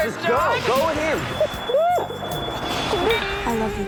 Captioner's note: sobs